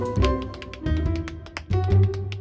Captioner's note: tapping